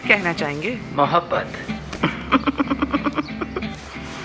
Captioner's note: laughter